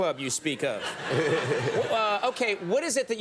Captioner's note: laughs